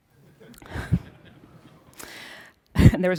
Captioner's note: laughter